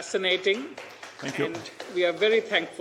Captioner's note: audience applauding